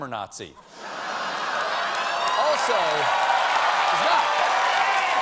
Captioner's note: cheers and applause